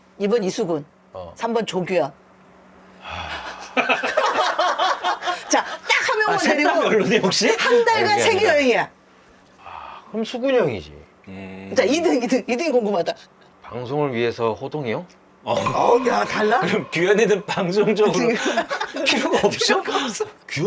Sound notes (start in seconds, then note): 3.0 deep sigh